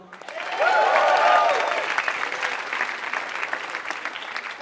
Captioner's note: applause